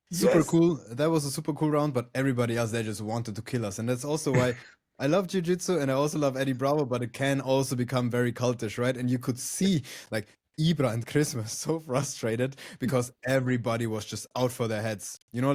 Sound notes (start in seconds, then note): 4.3 laughs